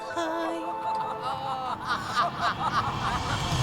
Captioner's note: laughing ridiculously